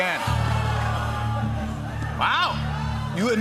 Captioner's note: audience exclaims